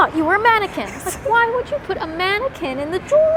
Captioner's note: laughs